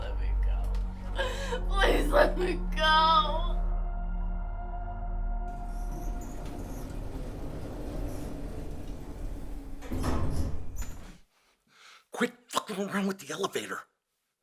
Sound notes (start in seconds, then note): 5.4 elevator rumbling